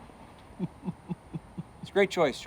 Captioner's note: george chuckles